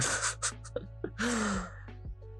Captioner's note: laughs